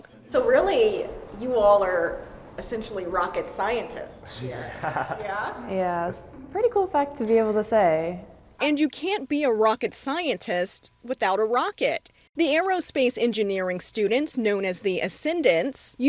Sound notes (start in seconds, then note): 4.4 laughs